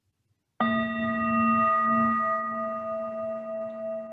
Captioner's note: bell tolling